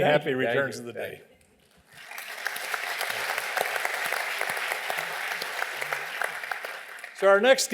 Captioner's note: applause